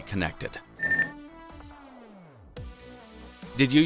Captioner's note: phone beeping